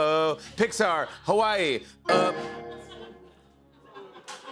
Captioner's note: beep